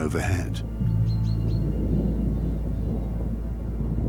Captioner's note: distant rumbling